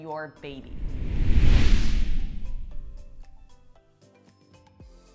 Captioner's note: logo whooshes; soft music